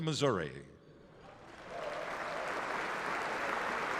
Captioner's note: applause